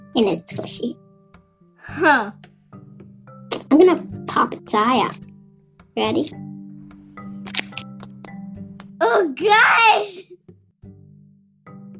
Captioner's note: pop